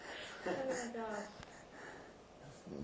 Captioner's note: laughing